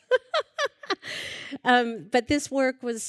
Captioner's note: laughter